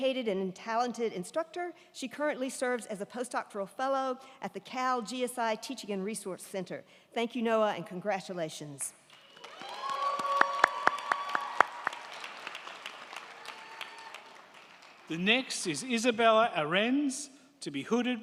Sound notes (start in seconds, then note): 9.0 crowd clapping; 9.2 crowd cheering